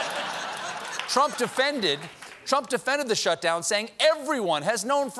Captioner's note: laughter